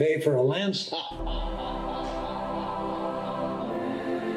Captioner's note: interviewer laughs; dramatic choral music